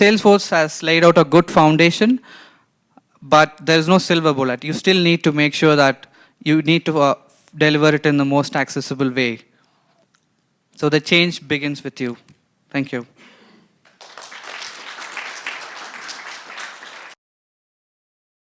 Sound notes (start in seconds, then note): 13.8 applause